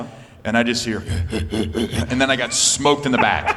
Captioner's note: panting